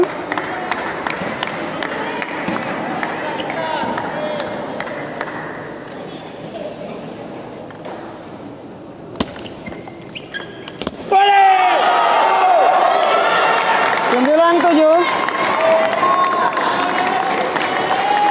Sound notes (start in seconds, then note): 0.0 applause; 4.7 applause; 13.4 applause